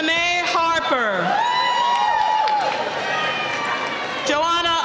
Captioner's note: cheering